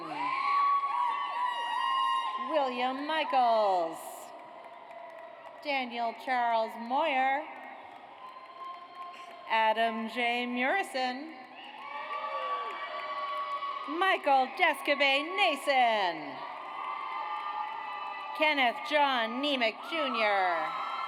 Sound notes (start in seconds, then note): 0.0 audience cheers; 3.6 audience applauds; 11.7 audience cheers; 16.4 audience cheers